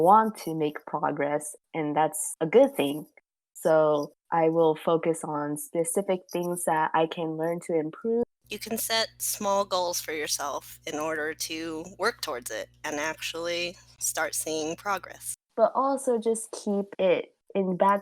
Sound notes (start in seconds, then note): none